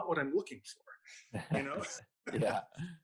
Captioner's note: laughs